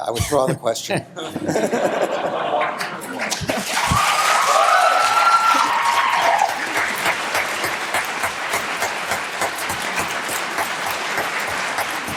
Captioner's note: laughter